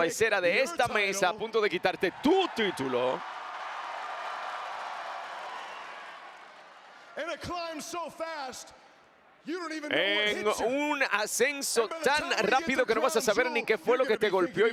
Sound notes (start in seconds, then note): 7.2 applause